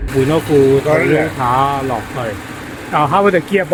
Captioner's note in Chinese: 引擎